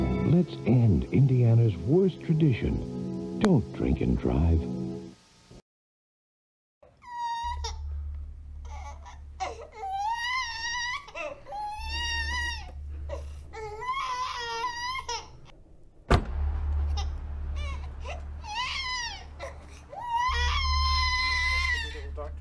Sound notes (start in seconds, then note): 6.7 baby crying; 16.0 baby continues crying; 16.0 car door closes